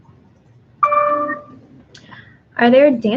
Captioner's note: computer dings